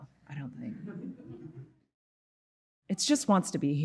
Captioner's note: audience murmuring